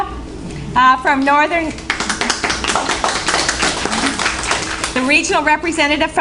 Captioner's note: applause